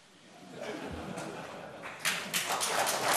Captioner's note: laughter; applause